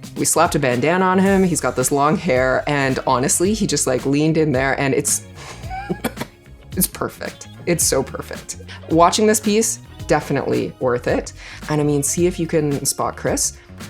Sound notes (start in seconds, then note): 5.4 chuckles